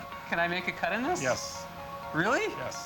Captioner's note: laughs